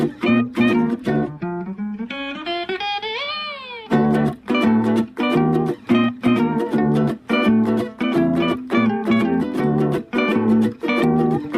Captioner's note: wept